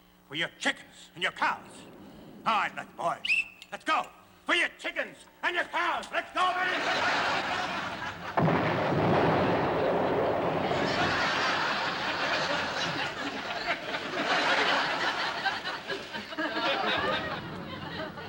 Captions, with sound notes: For your chickens and your cows. All right, then, boys. [ Blows whistle ] Let's go! For your chickens and your cows! Let's go, men! [ Laughter ] [ Explosions ] [ Laughter ]